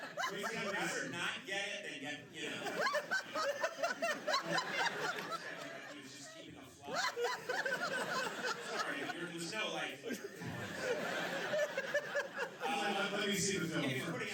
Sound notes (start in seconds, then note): 0.0 laughter; 4.9 laughter; 11.8 laughter